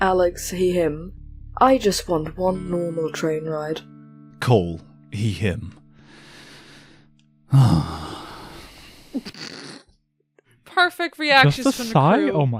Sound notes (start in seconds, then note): 7.5 sighs